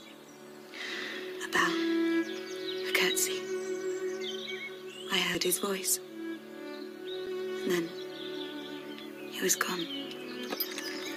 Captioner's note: sigh